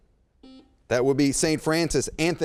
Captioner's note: beep